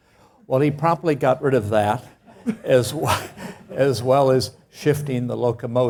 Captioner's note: laugh